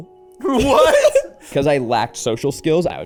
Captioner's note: laughing